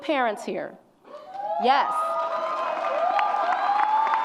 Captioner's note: audience applauds and cheers